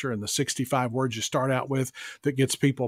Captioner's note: none